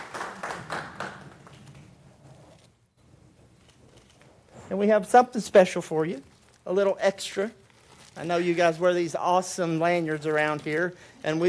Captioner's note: applause